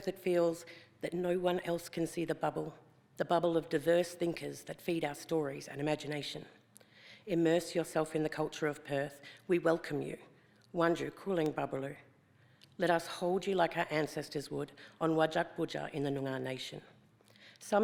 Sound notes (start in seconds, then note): 10.8 speaks foreign language